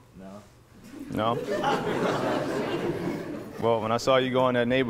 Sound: attendees laughing

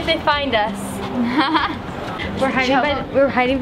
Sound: laughing

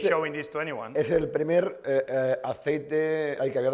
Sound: speaking spanish

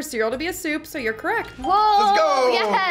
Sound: bell rings

